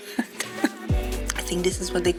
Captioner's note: laughs